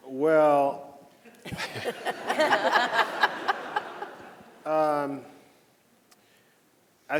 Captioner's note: panelists laughing; audience laughing